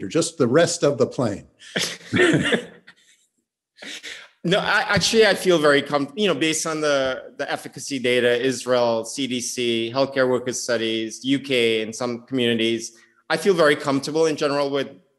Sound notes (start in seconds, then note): 1.7 chuckles